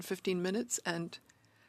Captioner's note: speaking in French